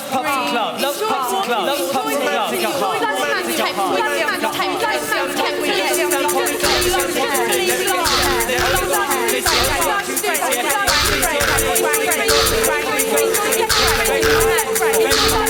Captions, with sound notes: Love pubs and clubs... Enjoy walking on the Autumn leaves. [indistinct chatter]